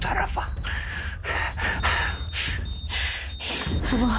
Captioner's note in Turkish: Hızlı soluma sesi